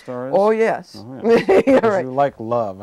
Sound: chuckling

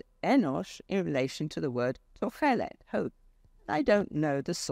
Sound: speaks foreign language

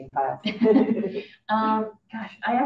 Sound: audience laughing

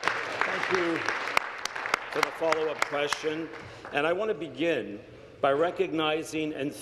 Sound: applause

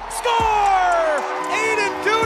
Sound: crowd cheering

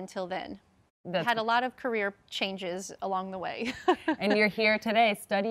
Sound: laughs

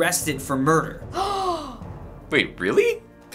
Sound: gasps dramatically

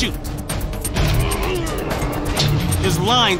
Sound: grunting

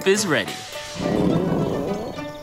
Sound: stomach growling

